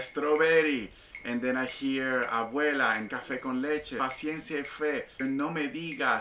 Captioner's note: speaking Spanish